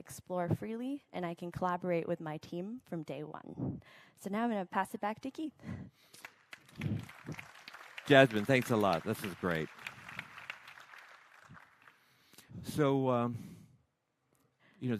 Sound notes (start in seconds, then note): 6.1 applause